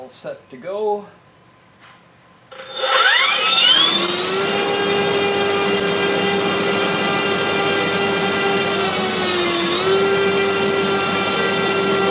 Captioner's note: motor noise